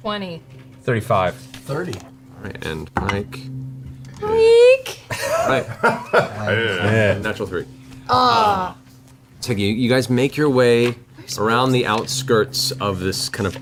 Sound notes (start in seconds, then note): 5.2 all laugh